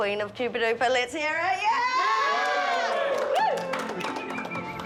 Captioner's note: all exclaim